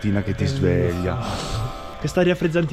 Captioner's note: loud breathe